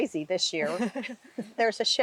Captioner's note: laughs